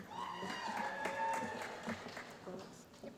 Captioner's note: applause